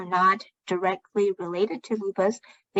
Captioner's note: speaking chinese